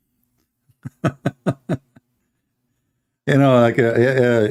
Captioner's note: Ketawa